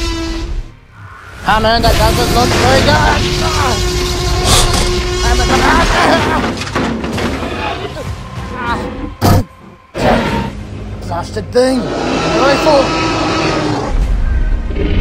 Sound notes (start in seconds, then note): 2.0 groans; 6.0 screaming; 13.5 roaring